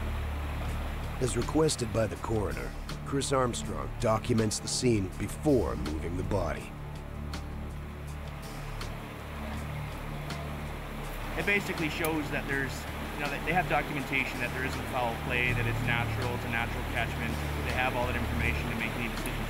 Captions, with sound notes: We don't want them to stand over top of a deceased thinking about it, reflecting on how they feel, doing those system checks in their head thinking, oh, am I okay with this, am I okay with this? - [Voiceover] As requested by the coroner, Chris Armstrong documents the scene before moving the body.